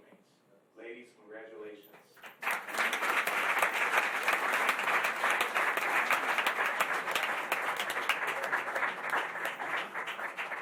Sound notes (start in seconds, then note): 2.7 applause